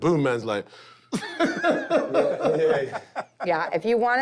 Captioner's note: laughter